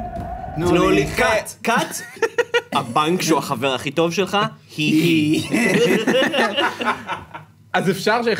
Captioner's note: snickers; laughs